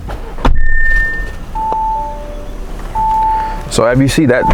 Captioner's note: car beeping